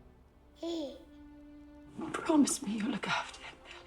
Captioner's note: baby gurgling